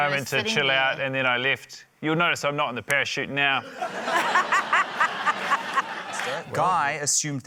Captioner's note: laughter